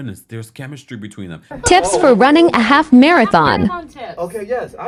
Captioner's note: voiceover